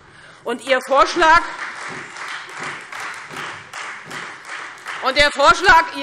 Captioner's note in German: Beifall Freie Demokraten